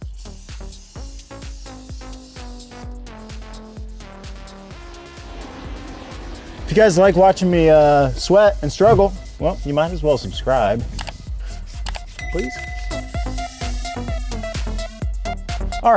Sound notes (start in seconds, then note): 0.3 upbeat music; 11.8 clicking; 13.8 upbeat music